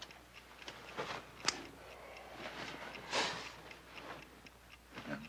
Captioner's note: light switch clicks off